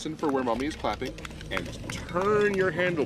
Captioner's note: clapping